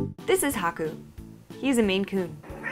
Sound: cute meows

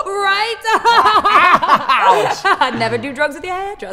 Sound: laughing

